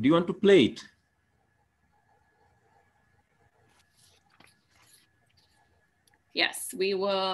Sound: silent

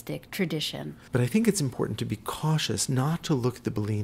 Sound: voiceover

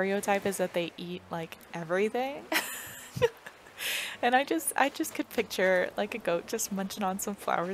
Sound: laugh

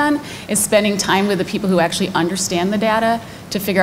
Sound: none

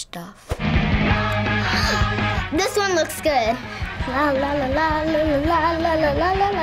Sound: gasps

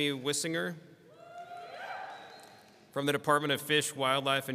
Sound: people cheering

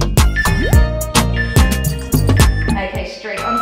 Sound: timer beeping

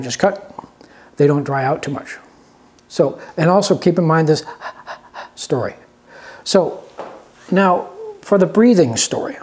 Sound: panting sound

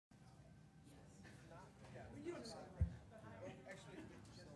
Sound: people quietly conversing

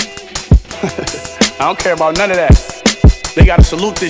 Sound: laughing

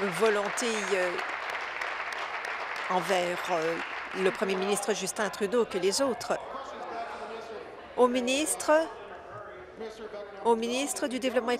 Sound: applause

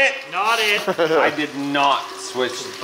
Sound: laughs

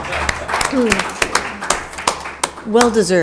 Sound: audience applauding

